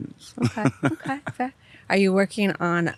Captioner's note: laughs